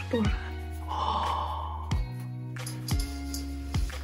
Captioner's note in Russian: вздох изумления